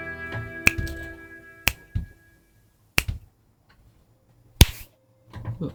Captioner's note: snap of fingers